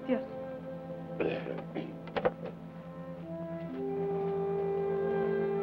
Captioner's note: Carney clears his throat